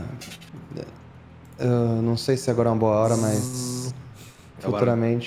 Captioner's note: tzzz